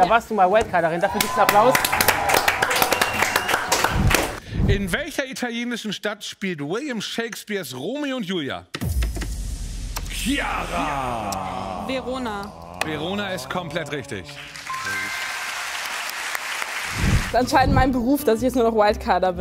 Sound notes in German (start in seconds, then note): 2.7 Jubel, Applaus; 8.8 Spannungsvolle Musik; 15.0 Jubel, Applaus